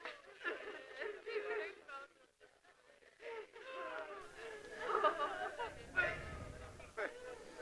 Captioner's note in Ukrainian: Плач